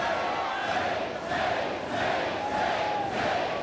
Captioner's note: crowd cheering